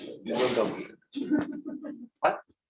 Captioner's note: laughter